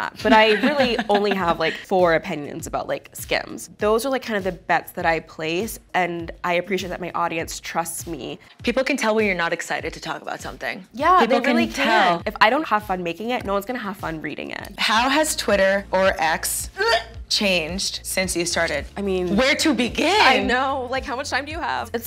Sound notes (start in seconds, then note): 16.6 retch